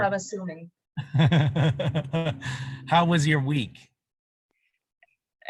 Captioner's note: laughter